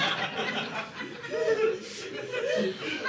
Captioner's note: audience laughing